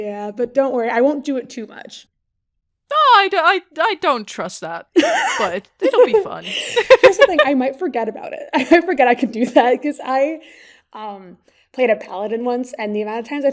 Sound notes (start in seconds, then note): 5.0 cracks up; 5.0 laughs